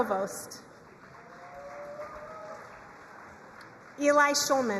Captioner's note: crowd cheering and applauding